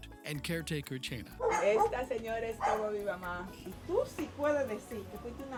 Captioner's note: speaking Spanish